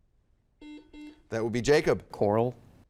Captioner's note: buzzer dings